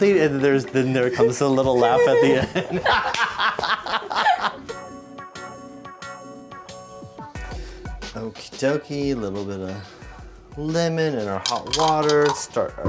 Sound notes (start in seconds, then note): 3.1 both laugh; 4.9 upbeat music